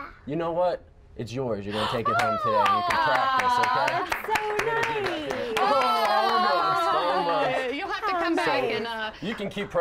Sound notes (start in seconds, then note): 2.6 applause; 8.7 laughter